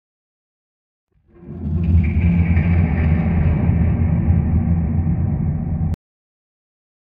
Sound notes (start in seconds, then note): 1.3 sound of alien